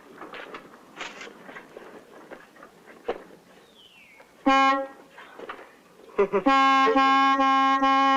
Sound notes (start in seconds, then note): 4.5 chuckling; 4.5 horn honking